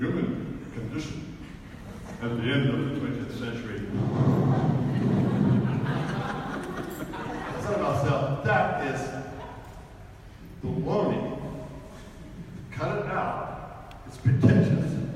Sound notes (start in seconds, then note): 0.0 talking in overly dramatic tone; 4.1 blows into microphone; 5.6 audience laughs